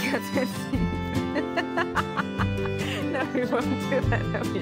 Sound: laughter

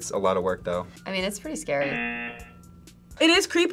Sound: buzzer rings

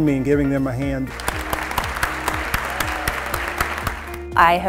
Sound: applause

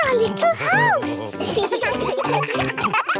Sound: children giggling

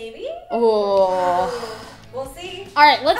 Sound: groaning

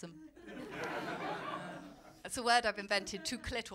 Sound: laughter

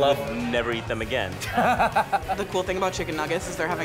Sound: laughs

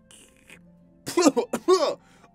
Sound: wolf sputters

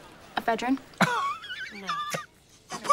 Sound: Katya wheezes and snaps

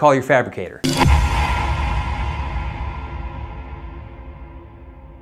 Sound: high pitch sound

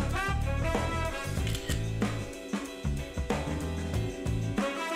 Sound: camera clicks

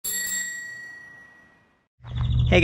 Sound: bell rings

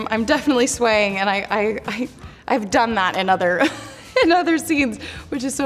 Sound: Hailee laughs

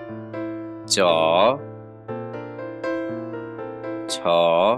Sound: Italian

